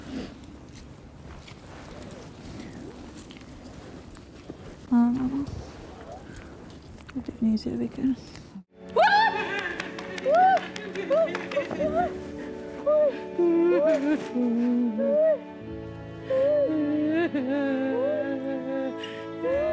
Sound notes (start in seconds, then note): 5.1 foreign language; 13.4 gentle music; 13.4 woman sobbing